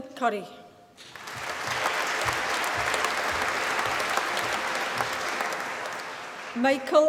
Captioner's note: applause